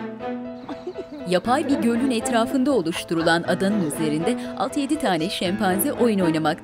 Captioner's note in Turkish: Gülüşmeler